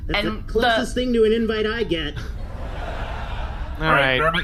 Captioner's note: audience chuckle